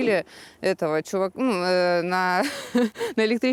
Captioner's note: laughs